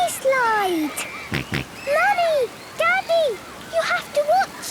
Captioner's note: George snorts